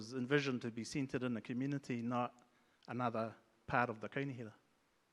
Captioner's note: speaks in Maori